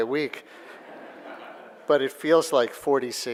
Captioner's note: audience laughing